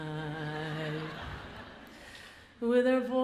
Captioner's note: audience laughs